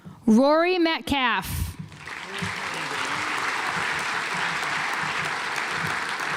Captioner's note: audience applauds